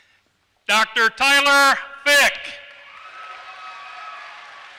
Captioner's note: applause